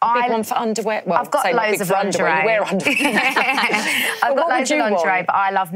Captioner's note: laughs